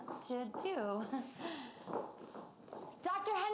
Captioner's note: chuckling